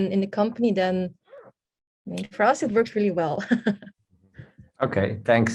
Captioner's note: laughs